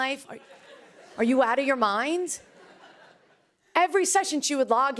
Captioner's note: laughter